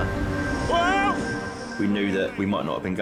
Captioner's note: man yelling